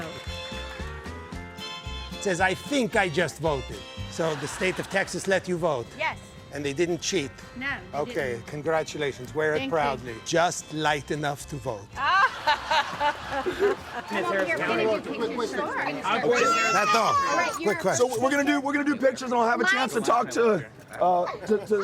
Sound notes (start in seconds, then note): 12.0 laughter